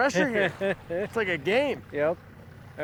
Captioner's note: laughter